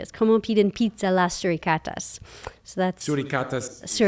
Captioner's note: foreign language